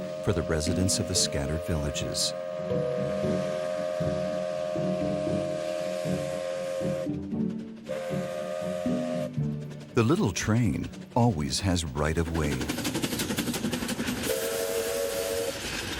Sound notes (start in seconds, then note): 2.5 train hooting; 12.7 train engine revving